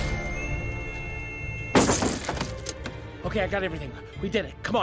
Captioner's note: whistles